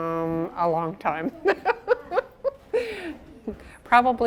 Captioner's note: she laughs